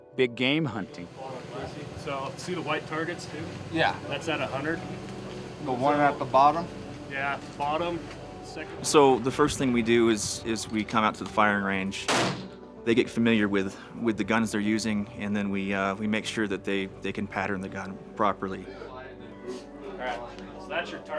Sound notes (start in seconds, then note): 12.1 gun banging; 19.0 veterans chattering